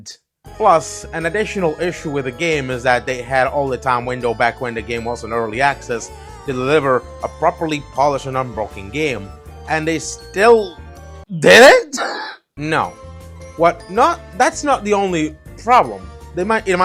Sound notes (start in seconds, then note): 11.3 scoff